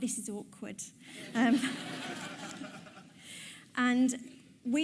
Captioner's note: audience laughs